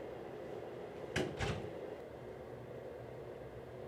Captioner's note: door closes